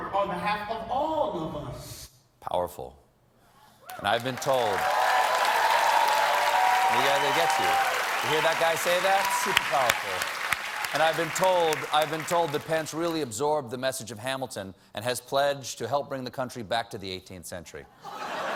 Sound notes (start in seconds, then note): 3.8 cheers and applause